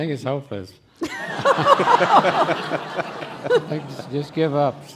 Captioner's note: laughing